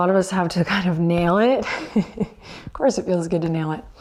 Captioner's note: chuckles